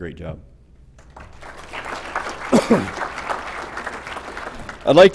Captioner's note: applause